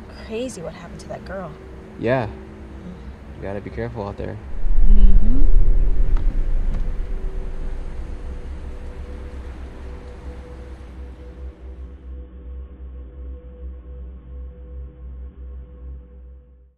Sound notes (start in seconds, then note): 4.6 ominous music; 6.5 car shifts into gear